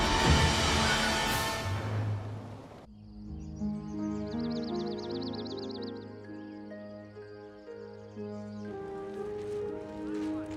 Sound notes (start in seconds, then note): 2.4 birds tweet; 3.1 peaceful orchestral music